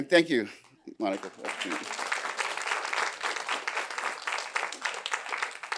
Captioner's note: applause